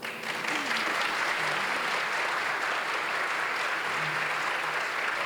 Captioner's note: applause